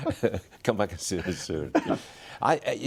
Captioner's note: laughter